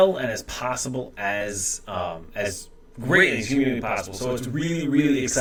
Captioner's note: interference